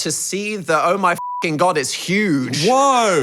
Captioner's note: beep